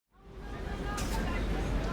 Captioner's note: city noise